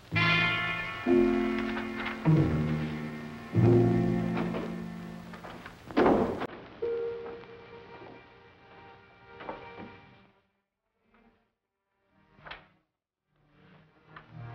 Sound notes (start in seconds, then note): 0.0 soft dramatic music; 6.0 drawers thudding; 11.0 soft dramatic music